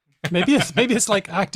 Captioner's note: laughs